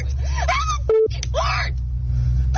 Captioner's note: beep